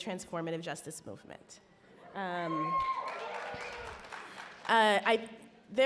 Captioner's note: audience cheer and applaud